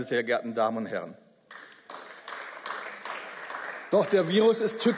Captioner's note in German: Beifall